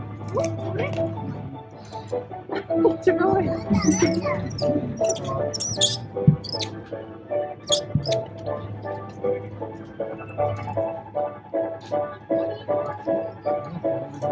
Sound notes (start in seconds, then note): 5.0 monkey chattering; 8.2 upbeat music